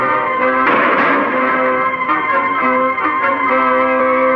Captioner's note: dramatic orchestral music; gun firing; dramatic orchestral music